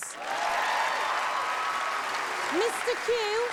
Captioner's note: cheers and applause